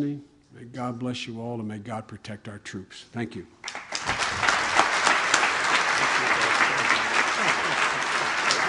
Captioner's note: applause